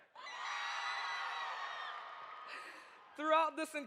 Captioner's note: audience cheers